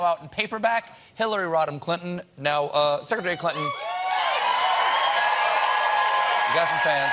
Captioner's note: cheers and applause